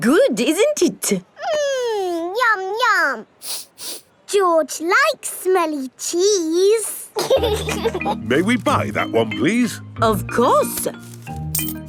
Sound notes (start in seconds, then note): 3.4 sniffs; 7.2 laughing